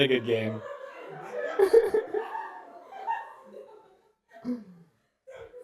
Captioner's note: laughter